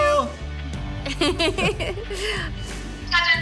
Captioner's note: laughs